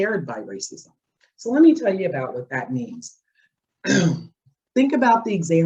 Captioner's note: clears throat